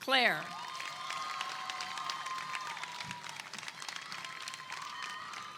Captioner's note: attendees clap and cheer